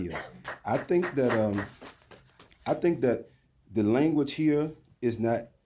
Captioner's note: applause